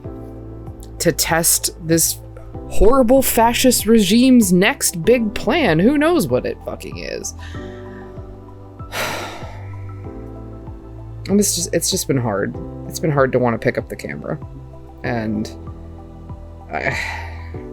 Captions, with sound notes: to test this horrible fascist regime's next big plan. Who knows what it fucking is? [sighs] And it’s just- it's just been hard. It's been hard to want to pick up the camera and I.